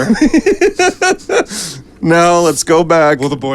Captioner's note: laughing